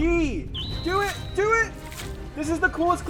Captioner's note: whistle blowing